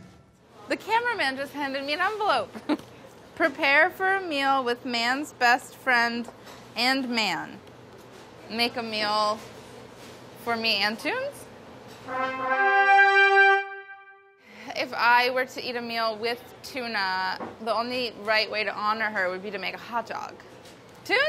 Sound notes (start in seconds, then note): 2.7 laughs; 12.0 trumpet sound